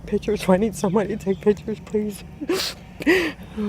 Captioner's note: sniffles